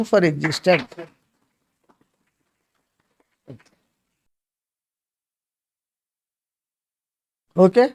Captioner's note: claps